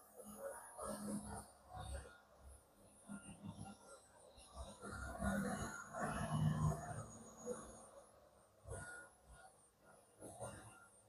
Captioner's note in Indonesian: printing